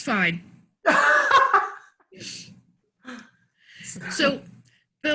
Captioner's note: laughs